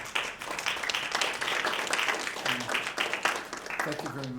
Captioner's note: audience applauds